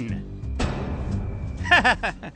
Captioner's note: laughing